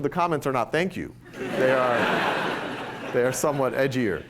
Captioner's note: laughter